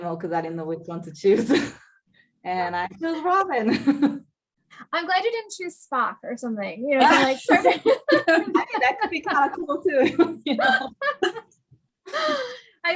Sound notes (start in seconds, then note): 7.0 indistinct chatter, laughter; 10.9 laughing